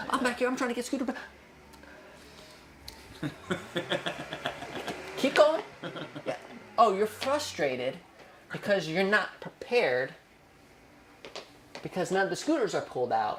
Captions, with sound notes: I'm back here, I'm trying to get scooter. (laughing) Keep going, yeah oh you're frustrated because you're not prepared because none of the scooters are pulled out.